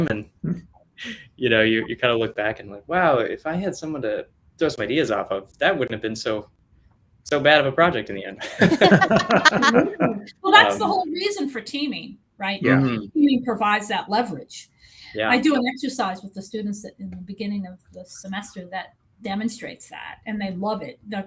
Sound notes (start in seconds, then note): 8.4 all laughing